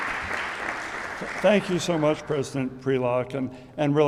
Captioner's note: audience applauding